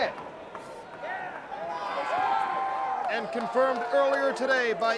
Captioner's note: crowd cheering